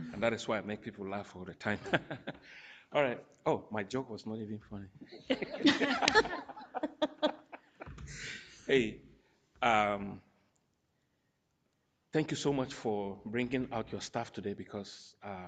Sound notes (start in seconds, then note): 1.7 chuckles; 5.1 all laughing